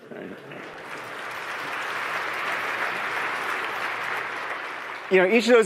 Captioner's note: applause